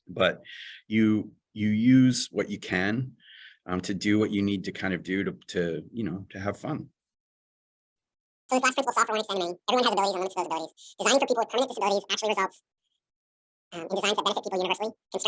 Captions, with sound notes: But you use what you can to do what you need to do to have fun. [AUDIO DISTORTED]